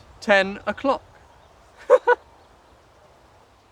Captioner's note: giggles